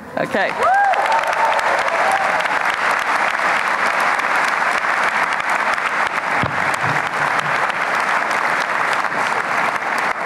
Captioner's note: applause and cheering